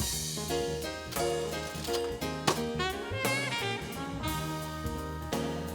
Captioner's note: cash register dings